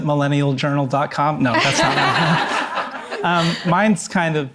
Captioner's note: all laughing